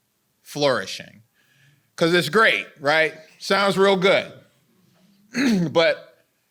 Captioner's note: clears throat